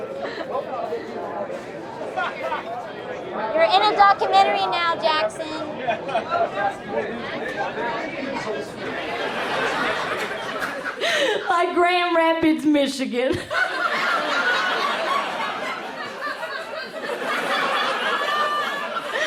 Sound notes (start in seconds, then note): 0.2 laughs; 6.5 bar sounds; 10.3 applause fades in; 13.3 crowd laughs; 13.3 laughing